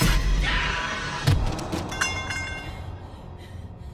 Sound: screams

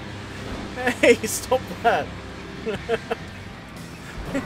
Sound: even more laughter

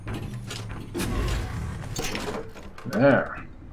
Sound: machinery moves

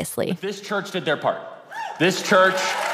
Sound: audience cheers

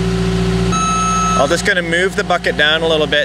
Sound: reverse signal beeping

